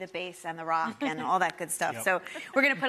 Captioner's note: laughs